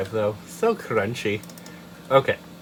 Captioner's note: double mouse click